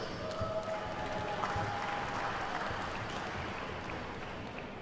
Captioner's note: attendees cheer and clap